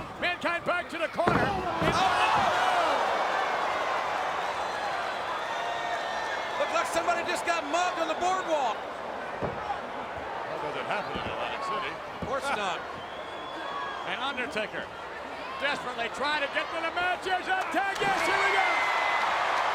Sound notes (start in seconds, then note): 1.1 bodies thud; 1.4 audience groans